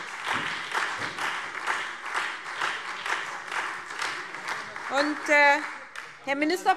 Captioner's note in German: Beifall SPD und Freie Demokraten - Zurufe CDU und BÜNDNIS 90/DIE GRÜNEN